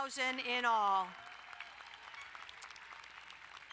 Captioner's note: crowd applauding